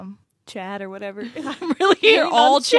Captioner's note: laughs